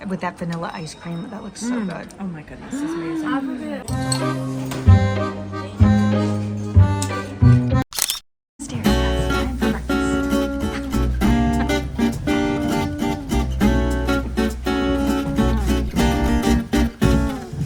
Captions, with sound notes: - With that vanilla ice cream. That looks so good. - Oh my goodness. It's amazing. (French music) (camera clicking) (upbeat music)